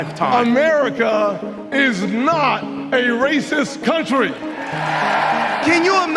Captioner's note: audience cheering